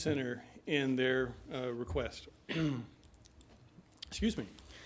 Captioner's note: clears throat